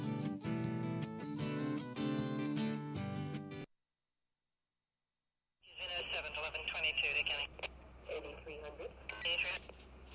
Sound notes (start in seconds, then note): 6.2 radio chattering